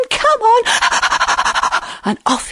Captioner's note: lion panting